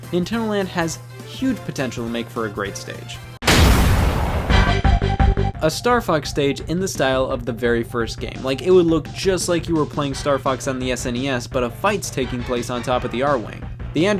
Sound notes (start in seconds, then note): 3.4 object smashes; 4.6 energetic music